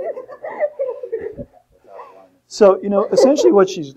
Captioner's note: students giggling